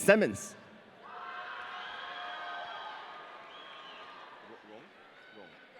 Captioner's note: audience cheering